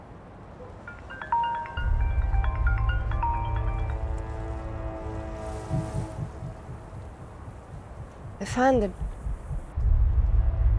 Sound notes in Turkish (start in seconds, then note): 0.8 Telefon çalıyor